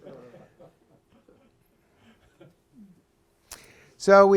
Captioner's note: laughter